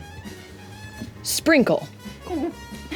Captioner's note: startled noise; giggles